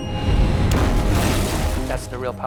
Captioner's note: explosion